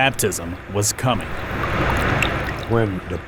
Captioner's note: water trickling